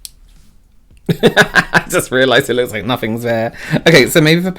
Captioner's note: laughs